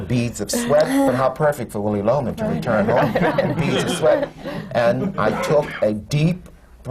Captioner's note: laughter